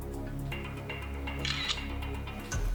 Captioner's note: camera clicking